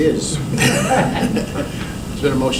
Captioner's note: laughter